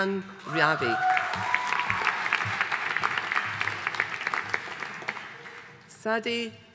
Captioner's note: audience cheering and applauding